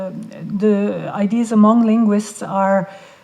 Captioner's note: none